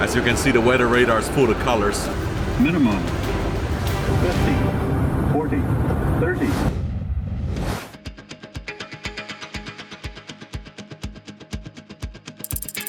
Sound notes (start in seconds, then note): 3.1 electronic Voice; 8.2 intense music